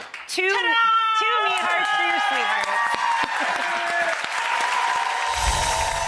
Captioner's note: audience applause